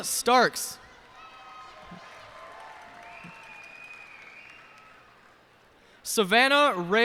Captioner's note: cheers and applause